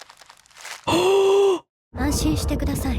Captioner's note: gasp